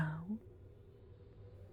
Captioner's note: none